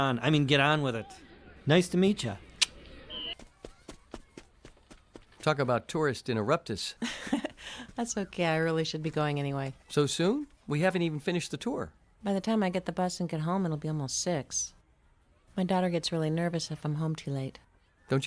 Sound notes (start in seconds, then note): 3.6 clicks tongue; 7.0 chuckles